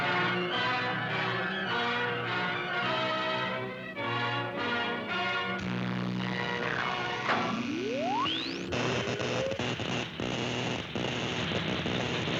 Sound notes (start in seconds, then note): 5.6 electricity buzzing; 7.2 clunks; 8.2 high-pitched whirring; 9.0 electricity zapping